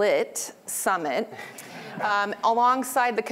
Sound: laughter

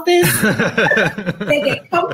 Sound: both laugh

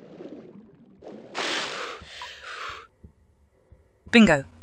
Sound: breathing hard

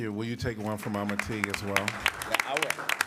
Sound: applause

